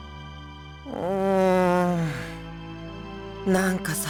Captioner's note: weary groan